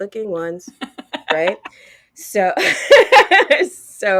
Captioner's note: both laughing